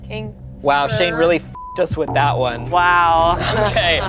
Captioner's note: beep